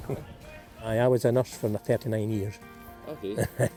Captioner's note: chuckles; chuckles